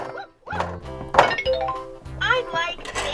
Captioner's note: laughs; chimes